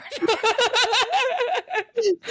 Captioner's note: laughing